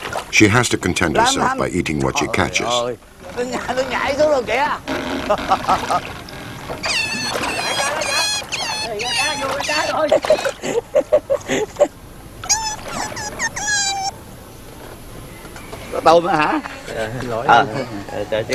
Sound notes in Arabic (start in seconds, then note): 3.2 الصوت المنطوق باللغة الفيتنامية